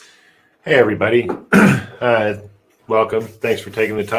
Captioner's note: clears throat